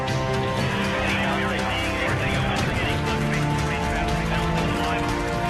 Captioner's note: cheerful applause